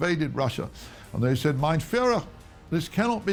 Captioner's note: speaking in foreign language